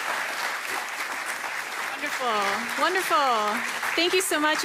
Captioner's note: applause